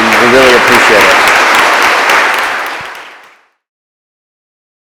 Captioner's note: audience applauds